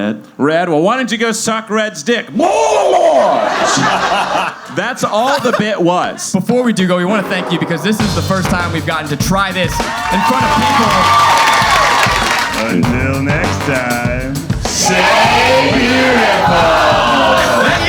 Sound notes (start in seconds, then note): 2.5 shouting; 2.9 audience laughing; 9.4 audience cheering